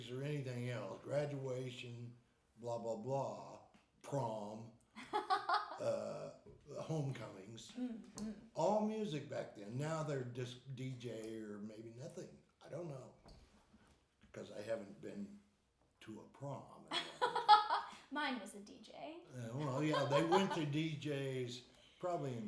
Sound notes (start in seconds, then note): 5.0 laughing; 16.9 laughing